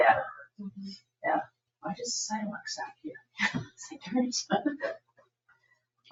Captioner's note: laughs